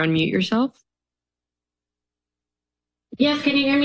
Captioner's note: silence